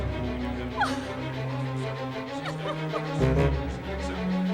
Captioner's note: Cassie crying